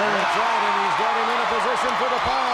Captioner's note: crowd cheers